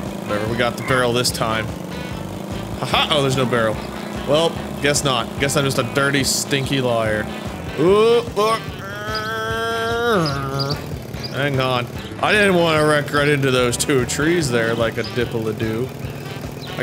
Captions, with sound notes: whatever, we got the barrel this time HAHA! oh, there's no barrel. Welp, guess not. Guess I'm just a dirty, stinky liar. Ooh, ooh, oh! (revving noises) Hang on. I didn't wanna wreck right into those two trees there, like a dip-a-la-doo.